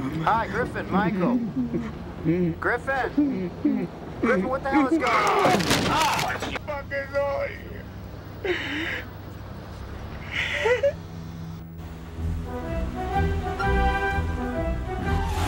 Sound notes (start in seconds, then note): 5.1 Dean grunts; 5.4 crashing noise; 11.8 playful instrumental music